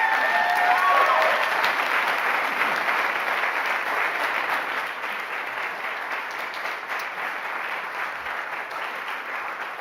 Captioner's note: cheering and applauding